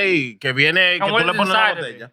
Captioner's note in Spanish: Hablando en idioma extranjero